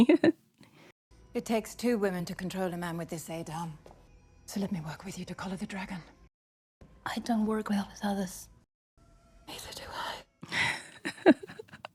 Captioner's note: laughs